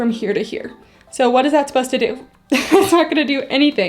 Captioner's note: laughs